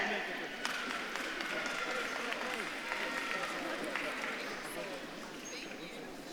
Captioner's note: audience claps and cheers